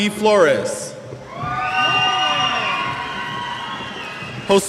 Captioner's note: cheers